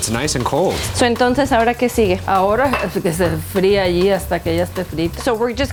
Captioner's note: speaks in Spanish